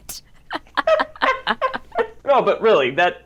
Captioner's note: both laugh